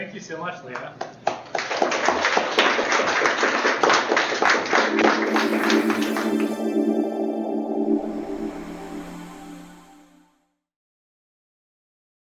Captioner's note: applause